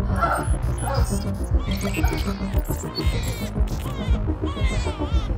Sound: robotic sounds of shrieker; baby crying

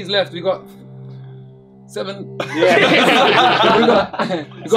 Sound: all laugh

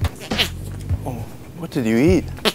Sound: upbeat music; fart noise

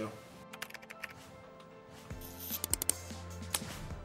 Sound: typing

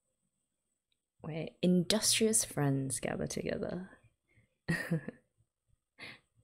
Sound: chuckles

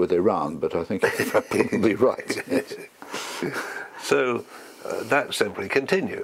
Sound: laugh

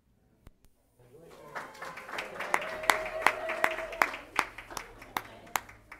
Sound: applause

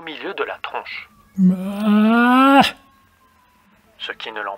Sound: yawns

